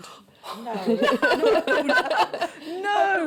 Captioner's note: laughter